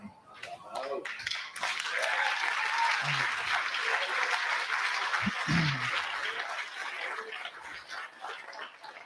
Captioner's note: applause